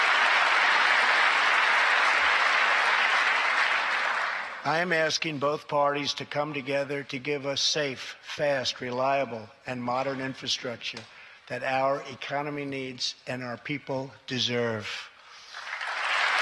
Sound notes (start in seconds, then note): 2.5 applause